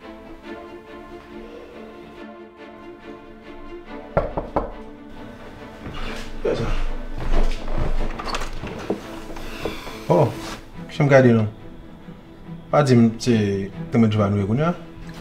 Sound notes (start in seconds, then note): 4.1 knocking; 7.2 door opens